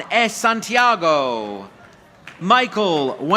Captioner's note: audience applauding